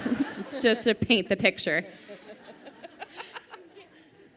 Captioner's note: laughing